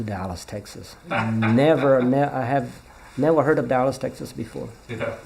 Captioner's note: laughs